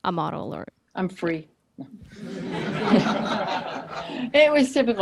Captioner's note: audience laughs